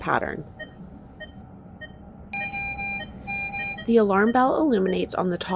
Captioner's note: machine beeping